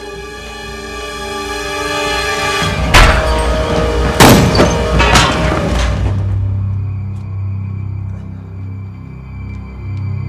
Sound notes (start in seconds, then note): 4.1 gun fires; 5.1 dramatic suspenseful music